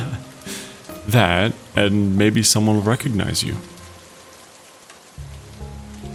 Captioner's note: laughs